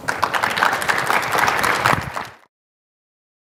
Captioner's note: applause